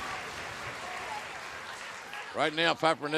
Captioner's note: cheers and applause